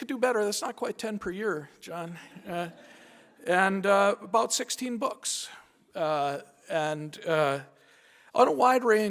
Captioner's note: laughter